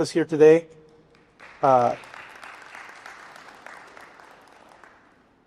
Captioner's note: applause